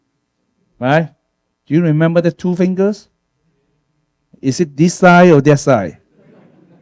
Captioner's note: audience laughter